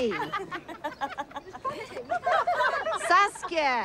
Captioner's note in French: rire